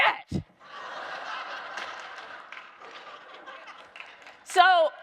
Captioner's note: audience laughing